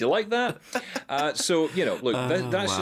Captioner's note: laughing